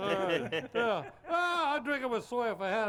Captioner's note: laughs